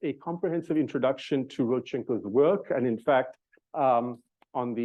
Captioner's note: stutters